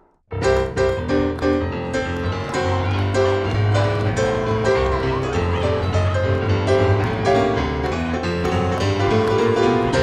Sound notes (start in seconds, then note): 2.6 inaudible crowd celebrating, feet moving